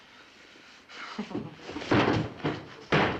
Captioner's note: chuckles